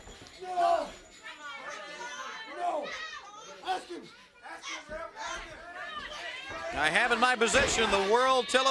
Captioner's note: crowd chatter